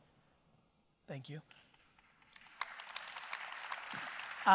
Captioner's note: audience applause